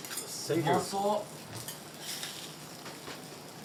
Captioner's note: speaks Japanese